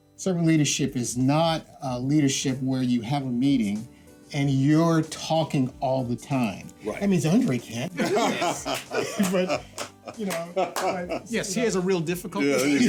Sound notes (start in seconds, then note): 7.9 speakers laughing